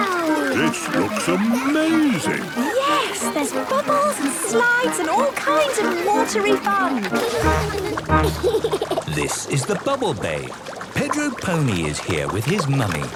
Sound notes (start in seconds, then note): 7.6 giggles